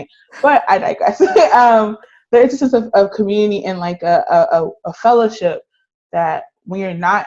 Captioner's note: both laughing